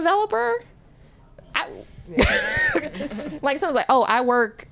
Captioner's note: laughter